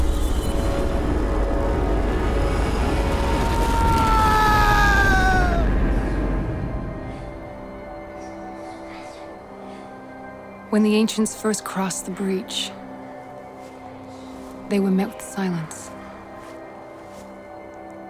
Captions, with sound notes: (man yelling) (eerie whispering) When the ancients first crossed the breach, they were met with silence.